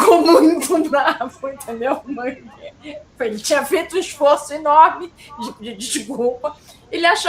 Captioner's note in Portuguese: risadas